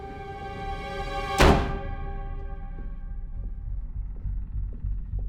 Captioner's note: tense music; door bangs